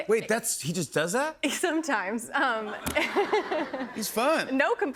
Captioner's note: laughter